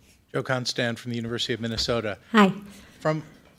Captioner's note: voiceover